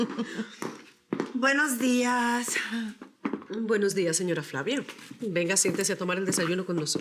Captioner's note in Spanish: Risas